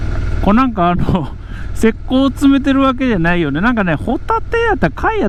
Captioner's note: laughs